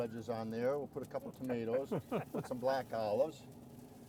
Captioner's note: man laughing